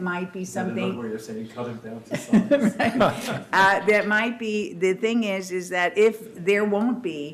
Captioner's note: laughter